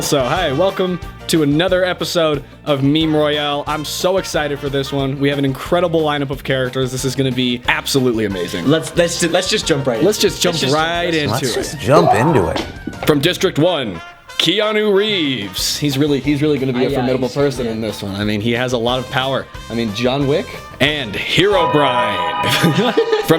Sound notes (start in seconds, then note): 12.7 impact; 22.4 laughs